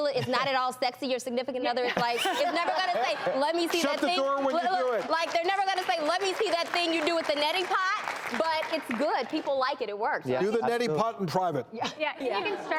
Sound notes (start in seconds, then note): 1.9 laughing; 4.3 light clapping; 11.7 laughing